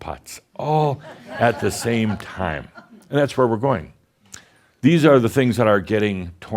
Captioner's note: some giggles